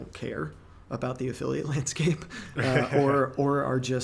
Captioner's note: laughing